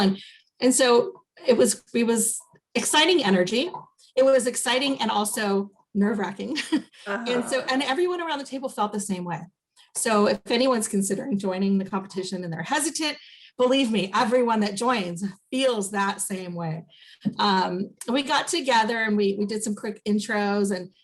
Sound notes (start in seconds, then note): 7.0 chuckles